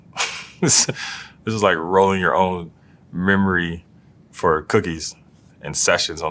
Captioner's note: laugh